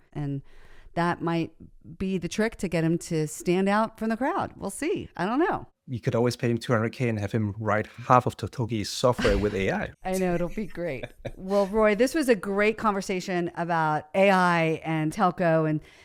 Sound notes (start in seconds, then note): 9.1 laughs